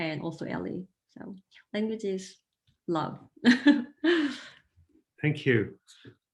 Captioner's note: laughing